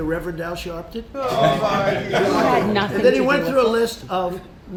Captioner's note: laughter